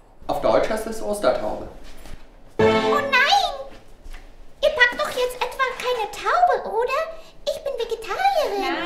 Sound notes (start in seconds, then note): 2.6 dramatic sound effect